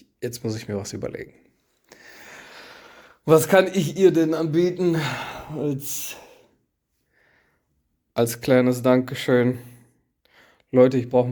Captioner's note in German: seufzt